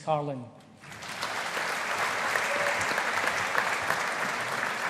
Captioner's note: audience applauding